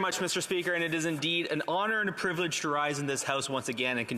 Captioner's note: speaking French